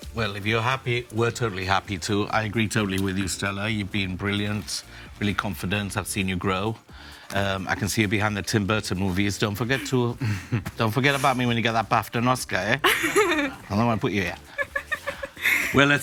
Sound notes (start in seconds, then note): 14.3 laughs